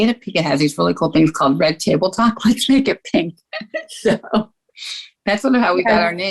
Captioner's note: chuckles